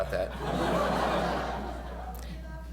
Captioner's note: laughter